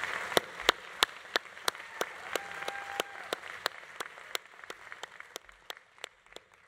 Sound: audience cheering continues; audience applause continues

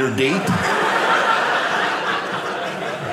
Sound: audience laughing

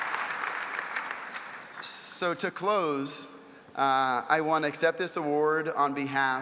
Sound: applause

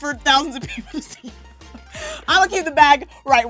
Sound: laughs

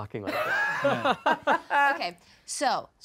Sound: laughing

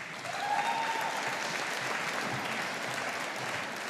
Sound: audience applauding

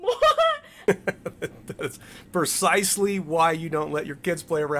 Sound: laughs

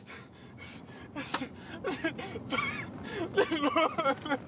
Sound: Daniel sobbing

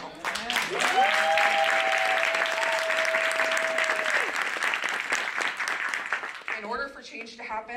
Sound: applause

